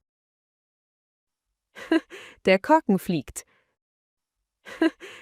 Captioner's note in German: lacht